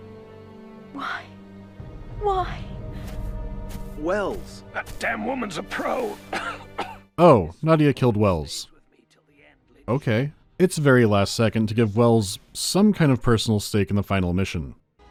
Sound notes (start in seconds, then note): 6.2 coughs